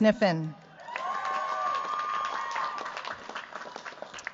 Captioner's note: cheers, applause